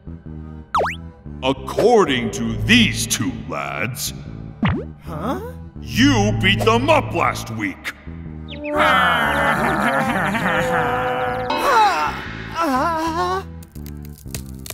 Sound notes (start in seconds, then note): 8.6 sounds of pain & agony